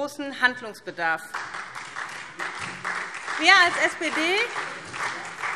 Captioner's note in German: Beifall SPD und vereinzelt DIE LINKE